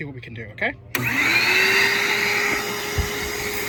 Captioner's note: whirring